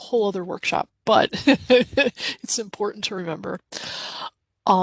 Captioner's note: chuckles